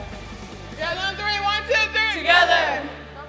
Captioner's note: voiceover